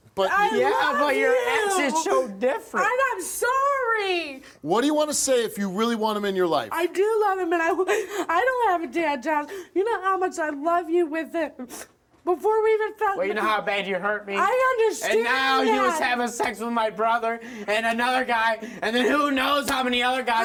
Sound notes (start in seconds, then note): 11.6 sniffs